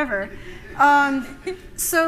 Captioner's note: laughter